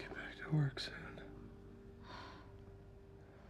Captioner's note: sighs